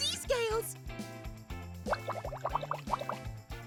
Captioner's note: water burbling